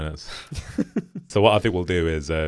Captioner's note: laughing together